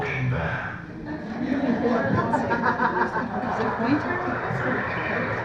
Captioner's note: laughter